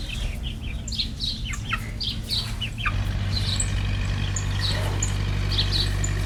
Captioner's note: birds; harvester engine